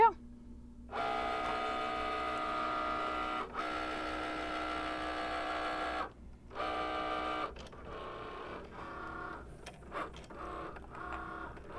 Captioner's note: Cricut machine foiling